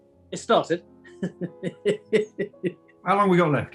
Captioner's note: chuckling